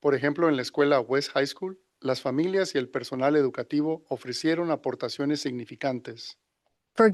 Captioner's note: non-english speech